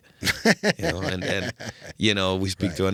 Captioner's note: laughing